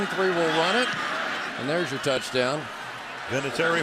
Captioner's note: pa announcement